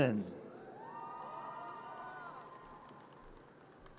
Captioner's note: audience cheers